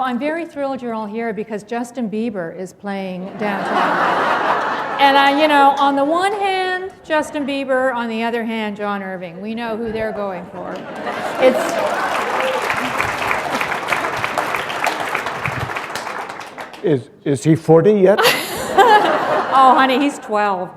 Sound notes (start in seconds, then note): 3.2 laughter; 13.5 laughter; 14.5 applause; 18.2 laughter